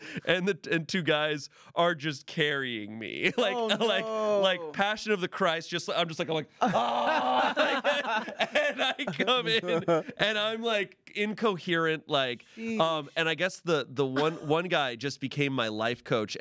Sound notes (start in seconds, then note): 6.6 yells; 6.6 everyone laughs